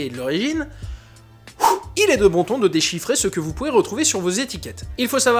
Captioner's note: sighs